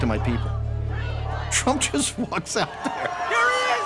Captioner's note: laughing